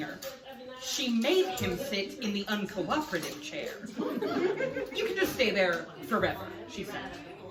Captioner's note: laughs